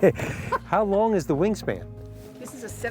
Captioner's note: laughter